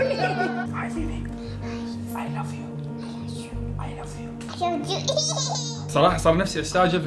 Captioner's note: whisper in English